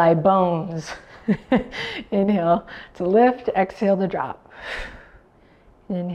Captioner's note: chuckles